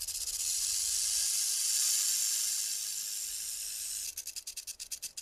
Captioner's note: snake rattling